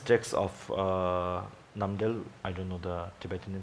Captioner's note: speaks in Tibetan language